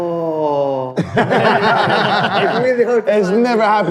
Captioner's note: laughing